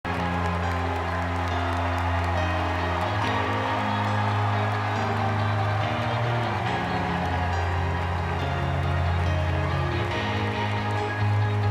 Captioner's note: applause and music